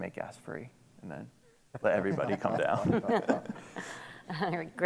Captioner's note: laughter